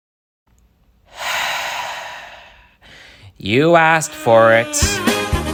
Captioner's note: sigh